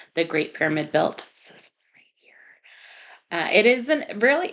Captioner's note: whispered